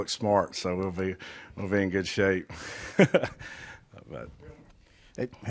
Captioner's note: laughs